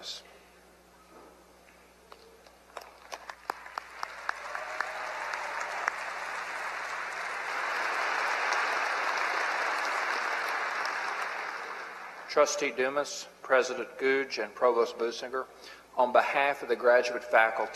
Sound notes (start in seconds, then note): 2.7 applause